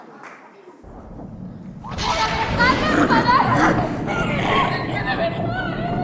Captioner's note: thunder sounds